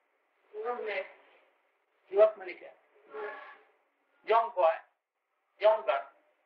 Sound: Hindi

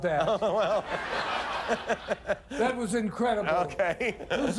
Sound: laughter

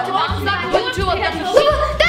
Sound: shouting

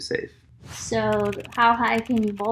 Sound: keyboard clicking

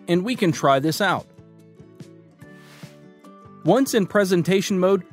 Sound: cheerful music; screen graphics whooshing

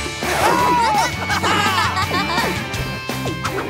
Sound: laughing

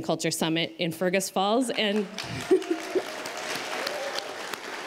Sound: applause

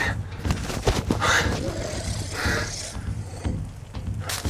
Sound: panting; animal growling

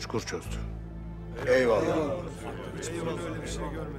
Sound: Hep bir ağızdan

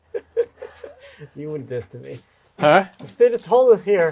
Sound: laughing

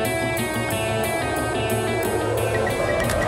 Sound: beeping

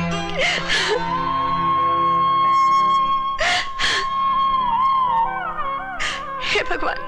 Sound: wailing

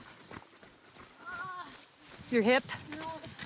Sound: footsteps struggling; groaning in pain

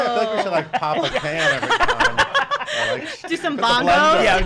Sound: laughing

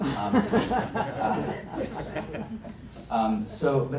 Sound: laughter

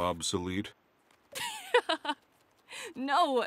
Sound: laughs

